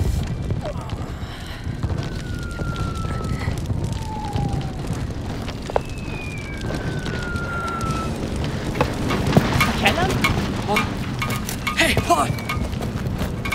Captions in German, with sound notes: (Schmerzerfülltes Stöhnen) (Bombensausen, Klirren) Calum? Hey, Paul!